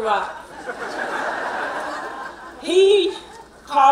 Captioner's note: laughing